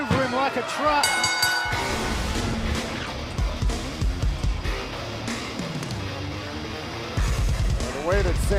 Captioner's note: bell ringing